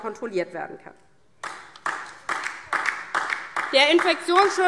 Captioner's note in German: Beifall DIE LINKE